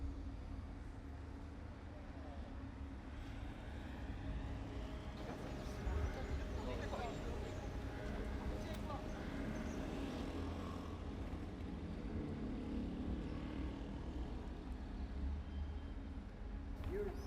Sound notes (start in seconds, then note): 5.1 pedestrians chanting; 12.6 motorcycle roaring